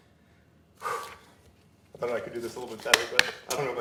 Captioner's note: blowing